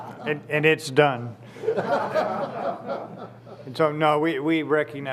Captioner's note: laughter